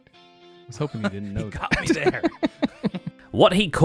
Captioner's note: laughs